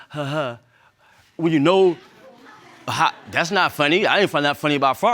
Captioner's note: imitates laughter; audience laughs